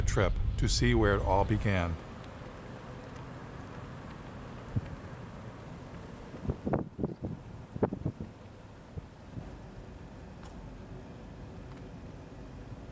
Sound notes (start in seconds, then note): 6.2 wind blowing loudly